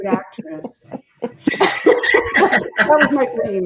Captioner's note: all laughing